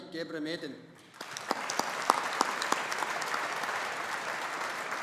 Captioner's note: audience applauding